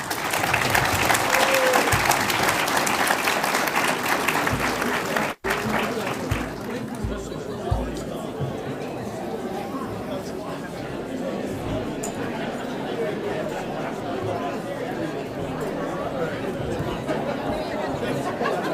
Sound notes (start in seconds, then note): 0.0 audience applauds; 7.2 audience murmurs